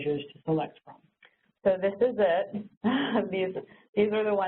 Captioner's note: chuckles